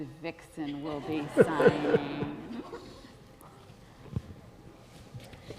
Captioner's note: audience laughing